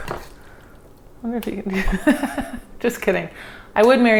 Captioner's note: laughs